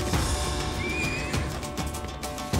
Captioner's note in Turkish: At kişniyor